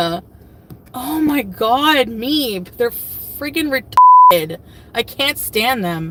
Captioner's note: beep